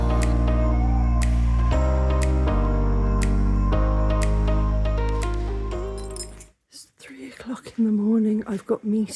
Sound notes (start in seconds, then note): 0.0 upbeat music; 5.9 keys jangling